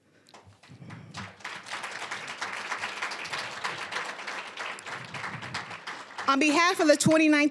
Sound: applause

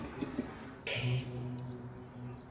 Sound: Frank laughs

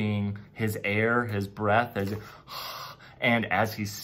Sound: exhales deeply

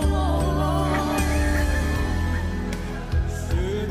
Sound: cheering

